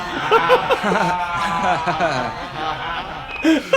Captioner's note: forced laugh